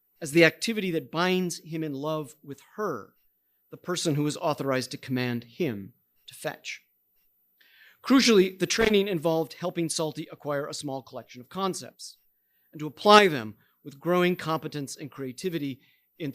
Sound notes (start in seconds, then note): none